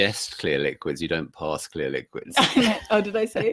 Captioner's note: laughs